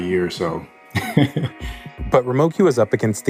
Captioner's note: laughs